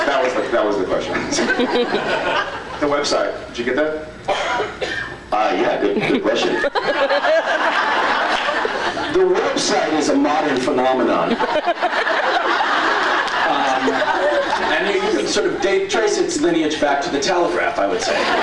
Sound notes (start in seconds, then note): 1.2 scattered laughs; 5.9 laughs; 11.2 laughs; 18.0 laughs